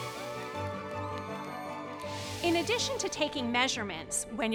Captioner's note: children cheering